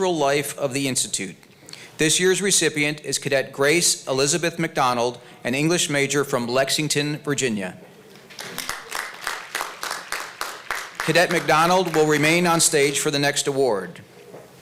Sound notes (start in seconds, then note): 8.1 applause